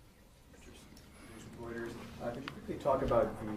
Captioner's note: speaking off mic